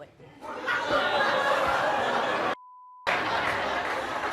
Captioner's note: audience laughs